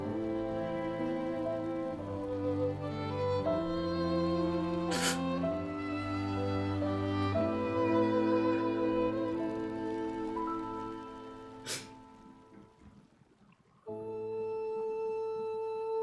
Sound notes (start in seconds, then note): 0.0 sad music; 4.9 sighing; 10.0 sad music